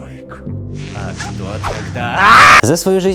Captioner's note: screaming